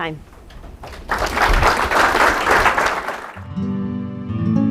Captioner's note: audience clapping; insightful music